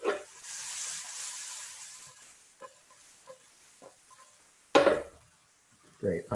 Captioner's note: silence